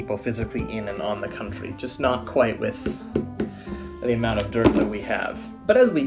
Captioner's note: tap tap